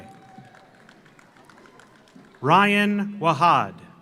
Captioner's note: audience applauds